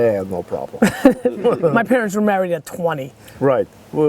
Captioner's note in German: Lacht